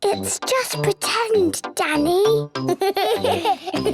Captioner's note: whispers; giggles